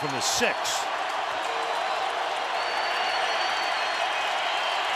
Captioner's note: crowd cheering